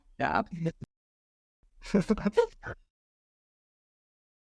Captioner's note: chuckling